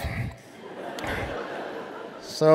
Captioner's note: audience laughing